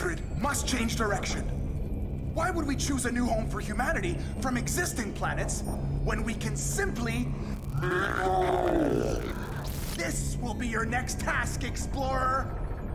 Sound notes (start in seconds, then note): 7.4 demonic distortions